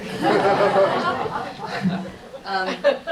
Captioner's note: laughter